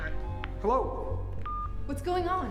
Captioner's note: beep